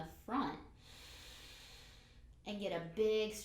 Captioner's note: breathes in